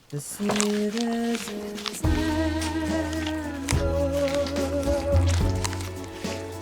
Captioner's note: furiously eating apple